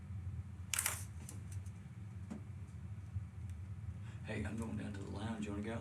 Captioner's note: camera shutters